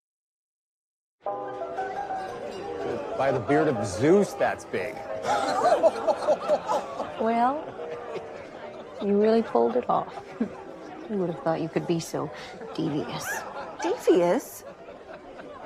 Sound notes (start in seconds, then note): 5.2 Ned laughing